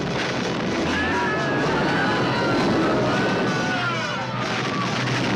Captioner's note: people screaming; suspenseful orchestral music